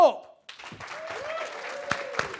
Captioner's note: audience clapping